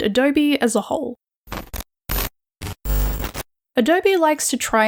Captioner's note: glitching sounds